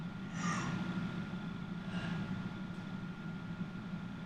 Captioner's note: sobs